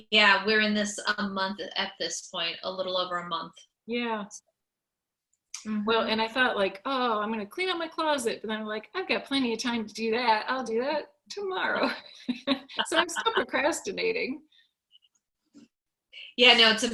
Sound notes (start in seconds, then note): 12.2 chuckles; 15.2 laughs